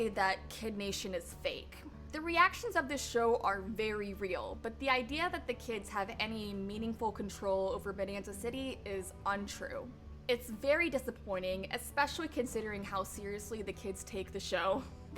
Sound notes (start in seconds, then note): none